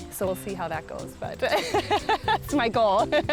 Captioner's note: laughs